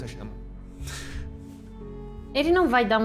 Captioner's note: laughs